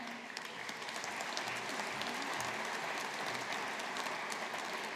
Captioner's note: audience applauding